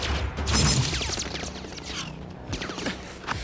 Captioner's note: guns firing